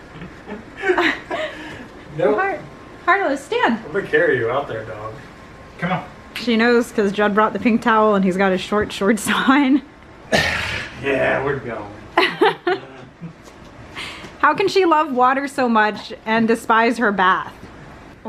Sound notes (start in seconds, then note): 0.2 laughing; 12.2 laughing